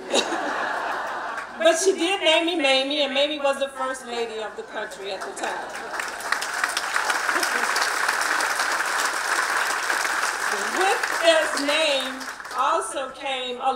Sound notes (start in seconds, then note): 0.0 laughing; 6.7 applause